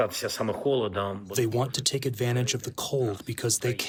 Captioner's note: through translator